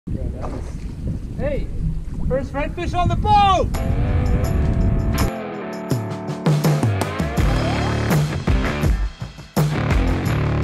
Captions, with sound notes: (water splashes) - Hey, there's redfish on the boat! (thrilled music) (energetic rock music)